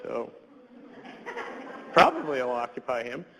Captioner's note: audience laughs